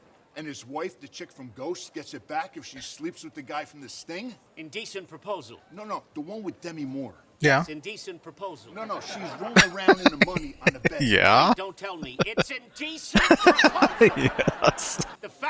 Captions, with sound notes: Yeah. [Laughing] Yeah. [Laughing] Yes.